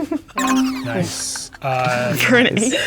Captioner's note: sound effect buzzes